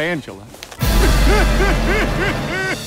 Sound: sobbing

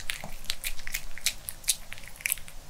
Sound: chewing

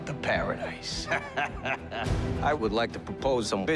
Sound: man laughing

